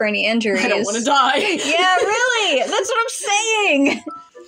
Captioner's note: laugh